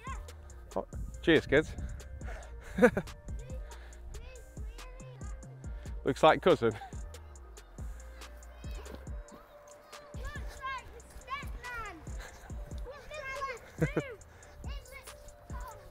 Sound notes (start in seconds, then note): 2.3 laughs; 11.2 kids shouting